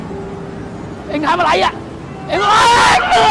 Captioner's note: people yelling in foreign language; people screaming